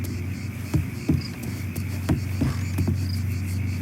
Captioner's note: crickets chirping; footsteps thudding; crickets chirping